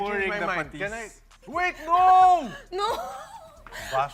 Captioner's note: laughing